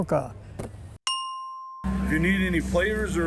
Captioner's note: bell dings